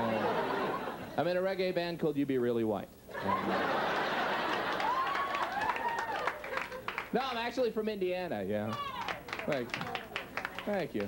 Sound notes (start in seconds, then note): 3.2 audience laughing, clapping; 8.6 clapping continues